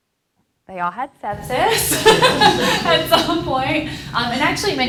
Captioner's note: laughs